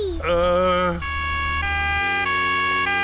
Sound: siren wailing

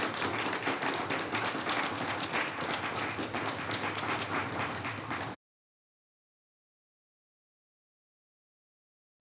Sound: audience applauds

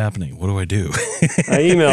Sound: laugh

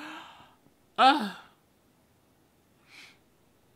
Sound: sighs in homosexual

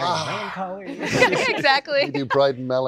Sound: all laugh

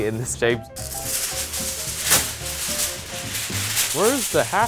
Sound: tin foil crinkling

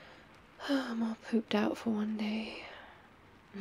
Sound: sighs

